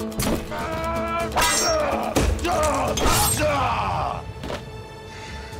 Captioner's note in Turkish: Dövüş sesleri